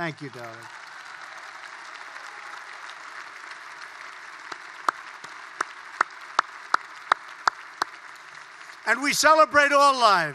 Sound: applause

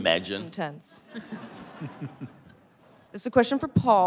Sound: laughter

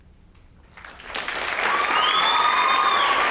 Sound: applause

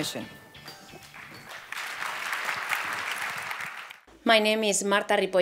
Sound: applause

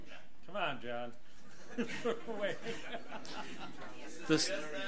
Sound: laughs

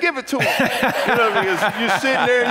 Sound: congregants laugh

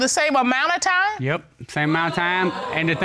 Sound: audience exclaims

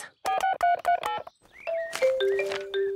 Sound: phone beeping

